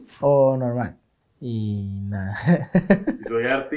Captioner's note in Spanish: risa nerviosa